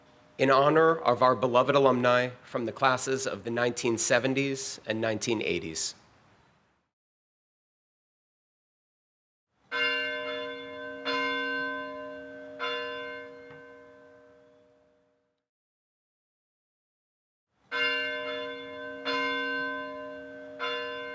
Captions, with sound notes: In honor of our beloved alumni from the classes of the 1970s and 1980s, (bell ringing) (bell ringing)